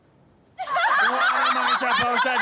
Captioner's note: crowd laughing